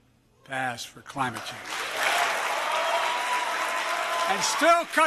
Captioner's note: applause